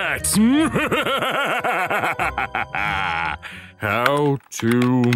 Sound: laughing maniacally

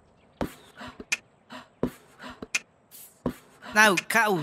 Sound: Cuddles Beatbox

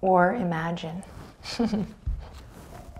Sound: giggles

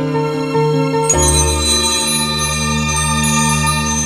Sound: bell ringing

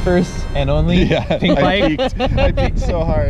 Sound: laughs

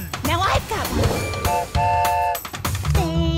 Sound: train whistle blows

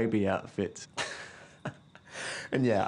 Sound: laughter

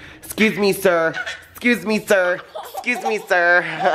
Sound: laughs

